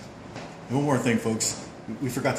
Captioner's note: voiceover